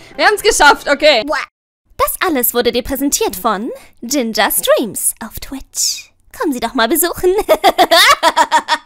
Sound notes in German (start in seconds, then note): 7.5 Lachen direkt aus der Hölle